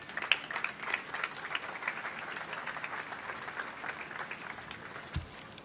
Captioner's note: applause